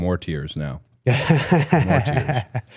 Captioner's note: Gunther laughs